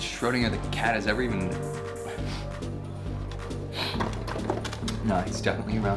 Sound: sniffs

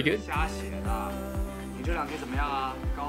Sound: foreign language

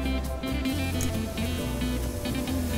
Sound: sizzling

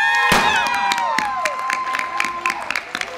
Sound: audience cheers; cannon pops; audience applauds

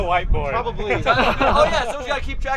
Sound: men laughing

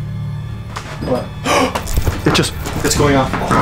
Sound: gasps

